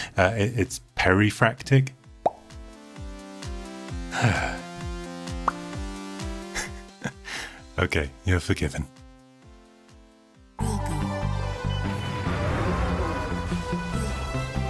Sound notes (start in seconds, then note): 2.2 pop; 5.4 pop; 6.5 laughs